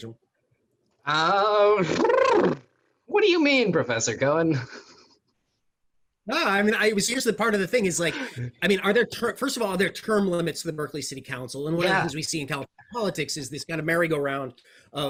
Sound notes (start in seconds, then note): 1.6 blows raspberries